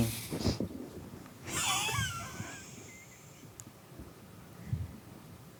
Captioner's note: laughs wheezily, as character